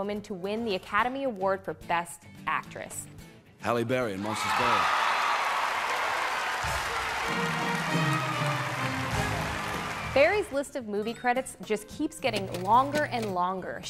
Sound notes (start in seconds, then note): 4.1 audience cheering; 7.4 triumphant music